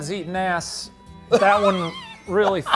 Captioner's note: laughs